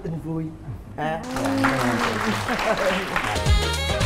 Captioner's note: applause